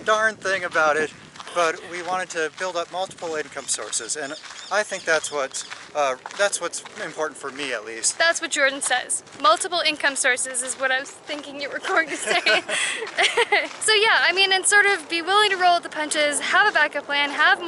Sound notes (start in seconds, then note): 11.9 laughte